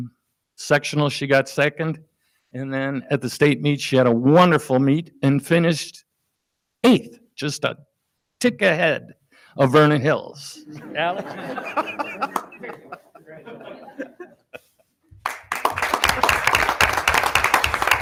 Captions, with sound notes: Sectional, she got second and then at the state meet, she had a wonderful meet and finished eighth, just a tick ahead of Vernon Hills, Allie (laughs). (audience laughing) (audience applauding)